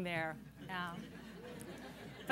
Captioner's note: laughter